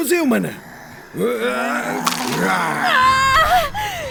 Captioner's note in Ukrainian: крики та гарчання